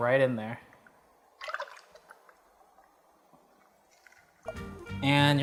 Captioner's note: liquid sloshing